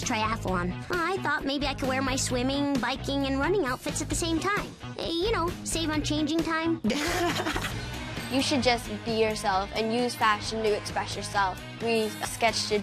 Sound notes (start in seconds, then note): 6.8 laughs